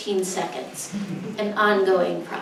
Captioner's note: audience laughs